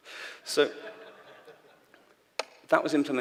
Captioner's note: laughter